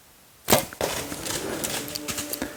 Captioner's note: arrow whooshes; energetic music